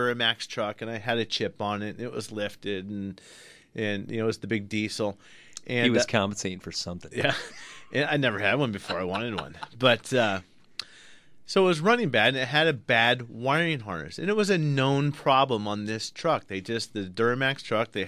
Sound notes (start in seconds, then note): 8.2 laughs